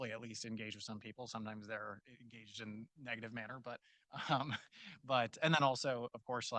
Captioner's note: chuckles